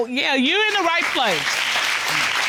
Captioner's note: audience applauds